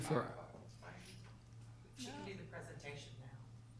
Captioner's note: man speaking softly